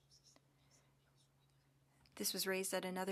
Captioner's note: speaking French